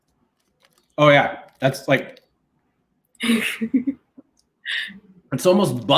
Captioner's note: laughs